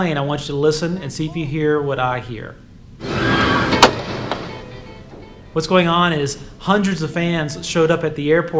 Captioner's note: crowd screams